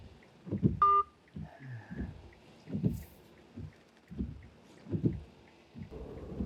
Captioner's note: phone beeping; Len sighing